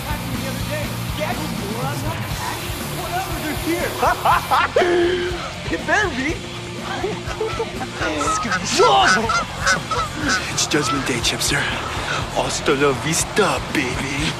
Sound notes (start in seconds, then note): 6.6 boys snickering